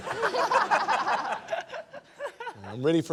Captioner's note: laughter